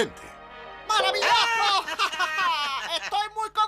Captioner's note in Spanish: ríe